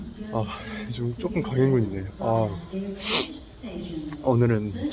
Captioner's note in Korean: 훌쩍